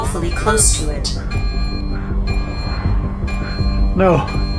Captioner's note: alarm blaring